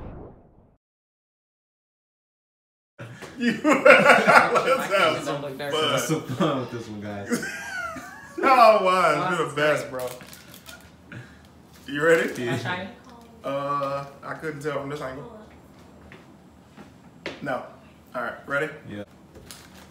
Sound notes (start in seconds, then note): 3.1 laughing